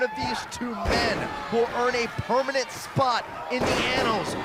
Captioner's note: crowd chatter